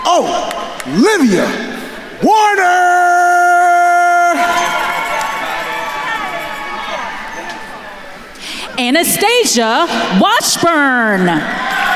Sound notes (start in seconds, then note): 0.0 attendees cheering; 4.6 attendees cheering; 11.7 attendees cheering and applauding